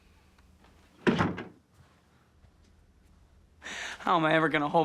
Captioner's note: door thudding